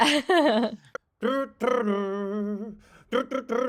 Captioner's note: imitating music